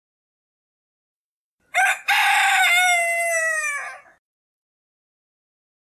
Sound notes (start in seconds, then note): 0.0 cock crow